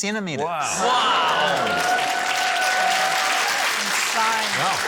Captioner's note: cheering, applause